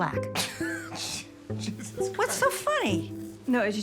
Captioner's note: laughs